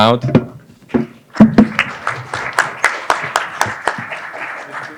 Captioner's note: applause